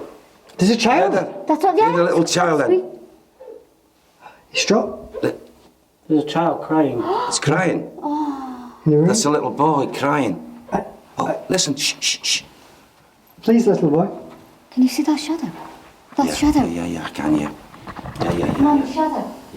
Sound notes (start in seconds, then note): 4.0 child crying; 11.9 shushing